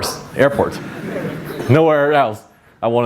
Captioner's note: audience laughs